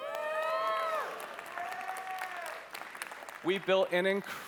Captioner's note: cheering